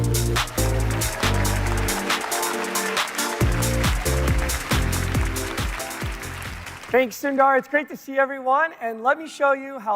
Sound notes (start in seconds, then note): 3.3 applause